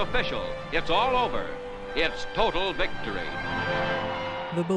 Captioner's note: cheering